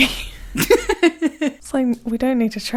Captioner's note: laughing